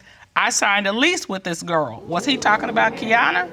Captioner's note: judge dana reading